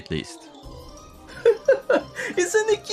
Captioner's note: laughs